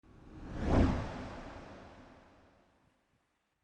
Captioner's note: air whooshing